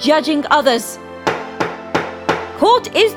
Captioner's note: hammer sounds